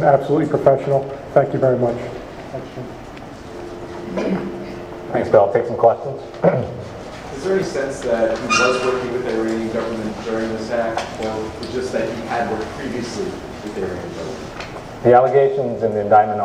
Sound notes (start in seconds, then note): 4.1 clears throat